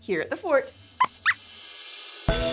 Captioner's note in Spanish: Squeaks chirría